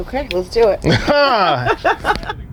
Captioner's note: laughs